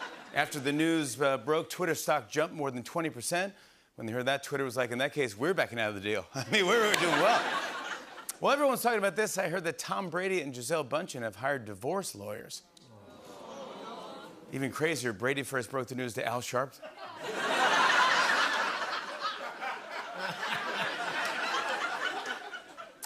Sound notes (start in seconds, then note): 13.0 audience awws; 16.8 laughter